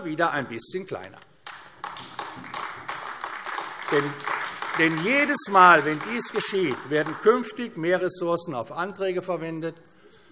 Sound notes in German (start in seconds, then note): 1.4 Beifall AfD